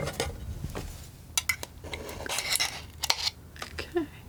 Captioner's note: scratching